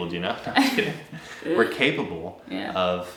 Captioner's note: laughing